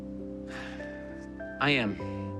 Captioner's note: sighs